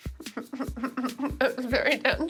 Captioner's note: laughs